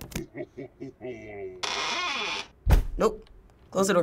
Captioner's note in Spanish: Puerta cruje, se cierra